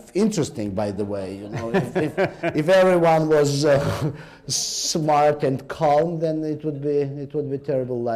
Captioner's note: laughter